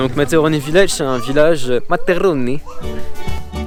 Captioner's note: italian accent